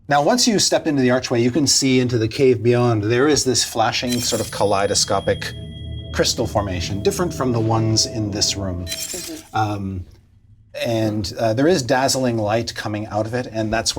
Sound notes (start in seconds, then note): 5.8 crystals hum